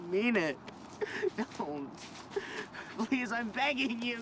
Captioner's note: cries